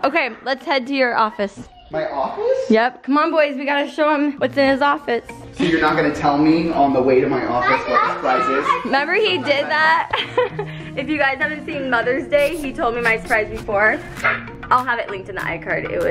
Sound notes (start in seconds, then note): 0.5 laughs; 9.4 laughs